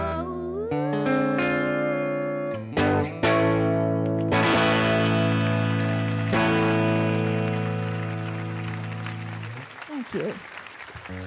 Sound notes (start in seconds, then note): 4.1 audience applauding